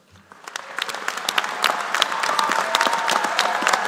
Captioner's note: applause